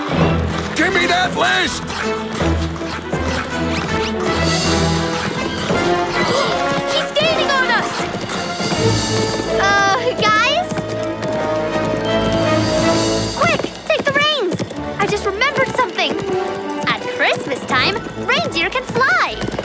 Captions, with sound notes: Give me that list! [gasping] He's gaining on us! Uh, guys? Quick, take the reins! I just remembered something. On Christmas time, reindeer can fly!